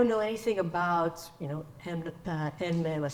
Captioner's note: speaks in foreign language